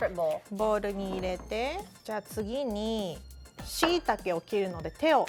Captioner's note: speaking Japanese